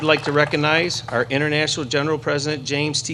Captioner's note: applause